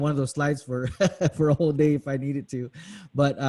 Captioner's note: laughs